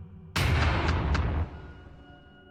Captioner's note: thumping sound effect